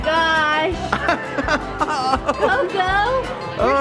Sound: laughing

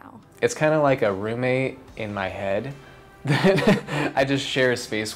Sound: chuckles

